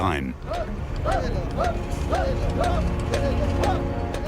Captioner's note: workers chant